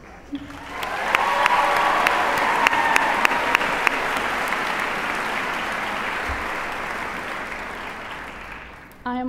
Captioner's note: applause